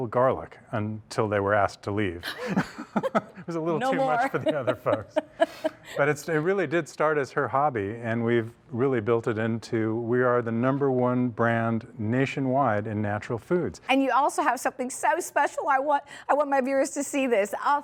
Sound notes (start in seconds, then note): 3.8 laughs